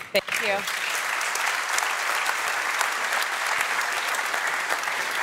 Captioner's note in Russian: публика аплодирует